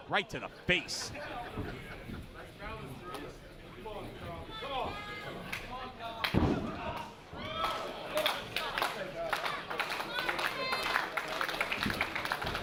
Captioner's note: applause